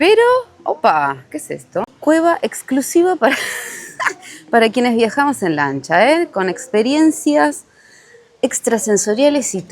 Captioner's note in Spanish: risas